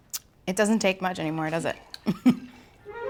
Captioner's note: laughs